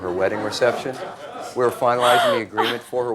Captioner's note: and audience laughs